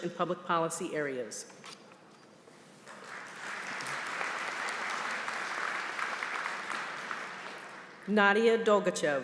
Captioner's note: applause